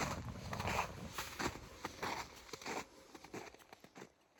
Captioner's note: snow crunching underfoot fades